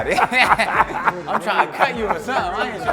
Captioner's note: both laughing